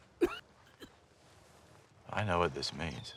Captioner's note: coughing